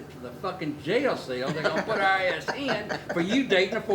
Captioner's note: people laughing